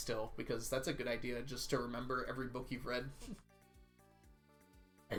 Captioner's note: chuckles